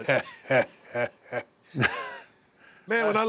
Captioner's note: laugh